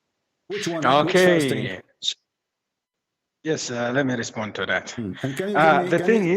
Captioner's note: Bertepuk tangan